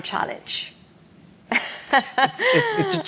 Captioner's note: laughs